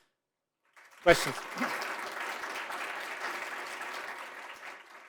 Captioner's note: audience applauding